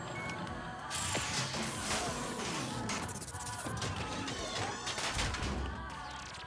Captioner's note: metallic clatter